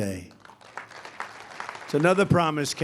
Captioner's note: applause